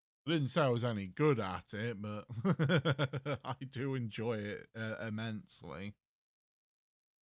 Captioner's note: laughs